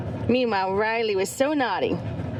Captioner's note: none